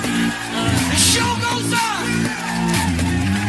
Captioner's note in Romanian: Aplauze